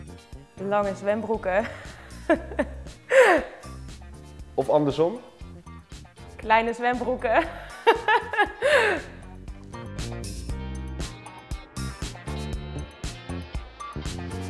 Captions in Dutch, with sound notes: Lange zwembroeken. [lacht voorzichtig] Kleine zwembroeken. [lacht hardop]